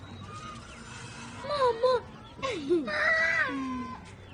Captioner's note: children chatting